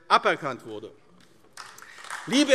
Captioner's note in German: Beifall AfD